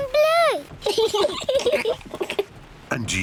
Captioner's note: both laugh